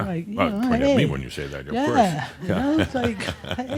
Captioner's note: chuckles